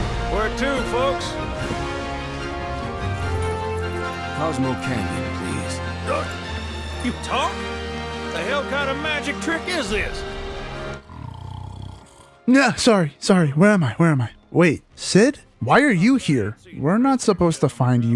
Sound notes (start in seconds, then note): 1.0 snore